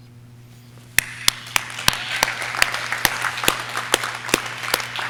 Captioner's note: audience cheering